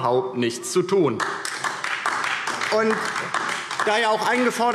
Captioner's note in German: Beifall DIE LINKE